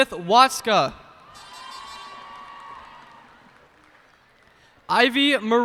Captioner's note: cheers and applause